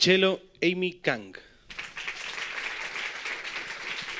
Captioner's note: applause